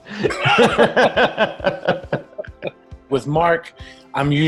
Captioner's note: laughs